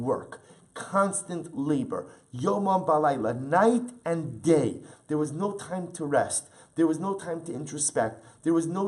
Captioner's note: Hebrew